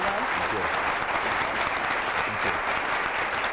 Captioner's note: applause